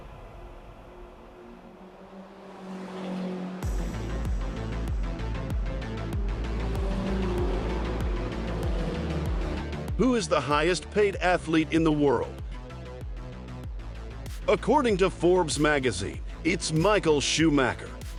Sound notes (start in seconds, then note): 1.4 car engines roaring; 4.6 upbeat music